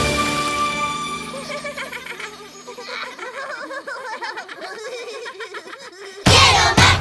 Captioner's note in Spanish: Risas